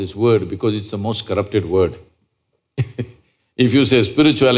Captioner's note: laughs